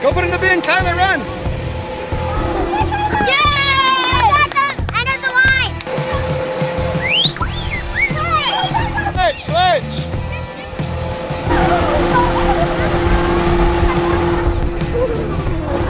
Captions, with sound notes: Go put in the bin, Kyler! Run! Yaaay! [Clapping] [Whistle] Switch! Switch!